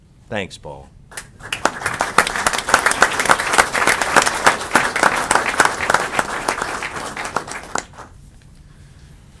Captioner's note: applause